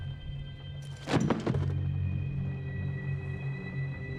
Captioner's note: box thuds